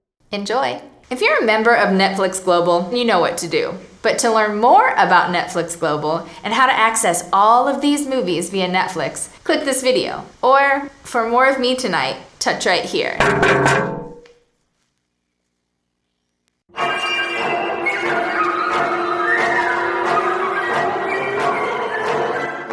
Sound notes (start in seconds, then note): 13.0 tapping on screen; 16.7 eerie music